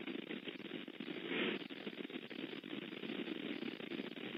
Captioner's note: static sound